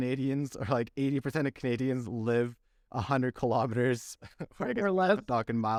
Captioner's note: laughter